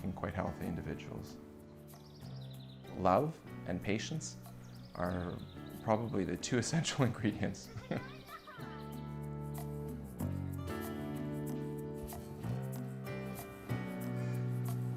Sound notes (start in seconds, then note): 6.9 chuckles